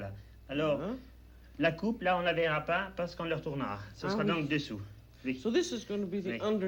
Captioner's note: speaking French